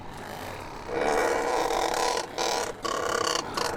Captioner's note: bird chortling